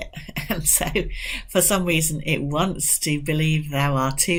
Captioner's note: chuckles